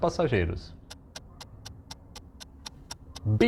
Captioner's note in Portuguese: barulho de relógio